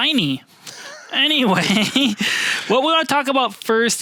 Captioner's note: both laughing